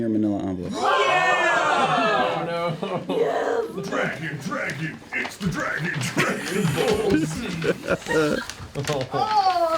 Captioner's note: cheering